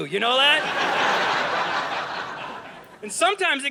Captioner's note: audience laughing